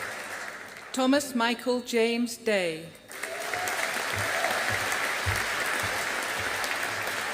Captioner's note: audience applauding